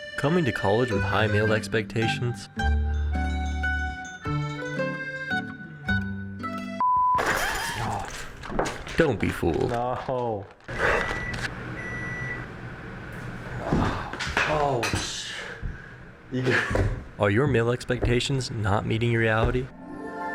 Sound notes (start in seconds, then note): 8.2 grunt; 10.7 microwave going off